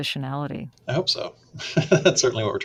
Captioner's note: laughs